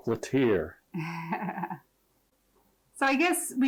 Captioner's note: giggling